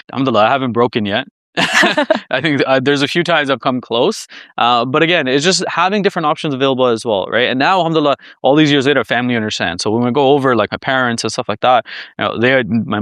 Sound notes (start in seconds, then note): 1.6 laughs